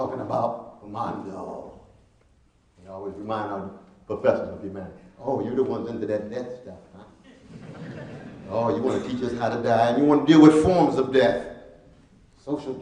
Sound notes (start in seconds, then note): 1.9 speaking Latin; 7.0 laughing